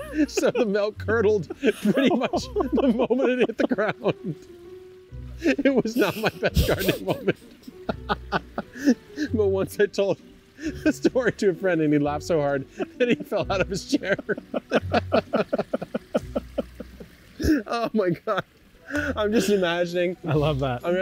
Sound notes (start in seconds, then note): 8.8 laughs; 14.5 both laugh